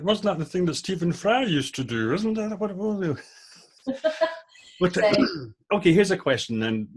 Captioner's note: laughing